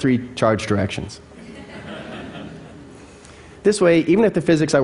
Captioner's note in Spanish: Risas